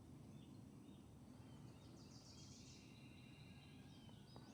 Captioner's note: birds chirping